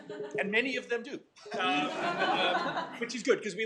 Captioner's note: laughing